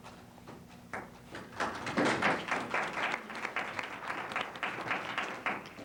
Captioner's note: applause